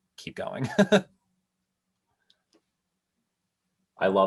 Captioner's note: laughs